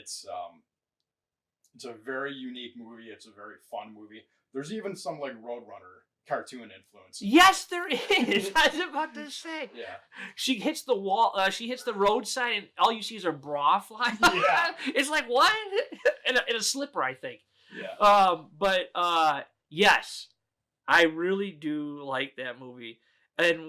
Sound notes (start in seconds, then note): 7.8 laughing; 14.2 chuckles